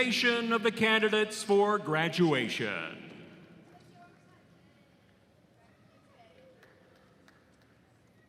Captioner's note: cheering and applause